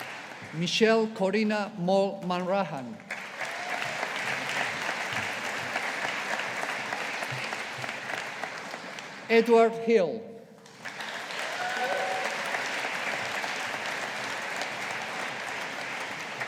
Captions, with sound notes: Michelle Corinna Maull Hanrahan. (AUDIENCE APPLAUDING) Edward Hill. (AUDIENCE APPLAUDING)